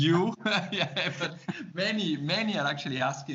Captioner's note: laughs